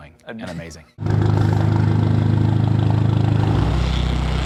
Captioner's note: motor idling